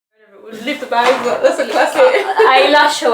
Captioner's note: laughs